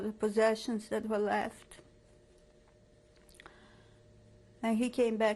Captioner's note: pauses for 3 seconds